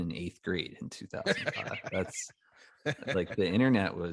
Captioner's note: laughs